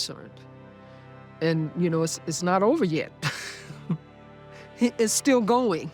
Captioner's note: chuckles